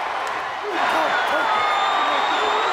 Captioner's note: crowd cheering